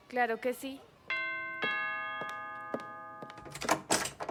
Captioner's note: doorbell ringing